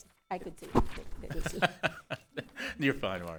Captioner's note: laughs